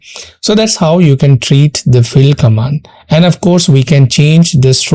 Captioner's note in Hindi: नाक से की जाने वाली आवाज़